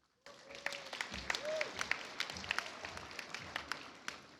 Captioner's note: audience applauds